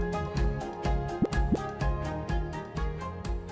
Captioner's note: graphic pops